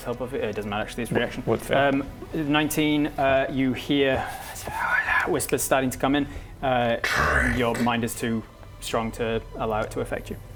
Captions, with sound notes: hope or fear doesn't matter actually it's a reaction with fear 19 uh you hear *dark noises* whispers starting to come in ~DRINK~ your mind is too strong to allow it to affect you